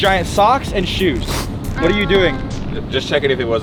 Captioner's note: sniffs